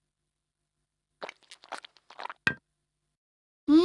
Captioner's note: Glou Glou